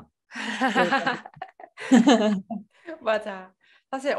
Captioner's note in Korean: 웃음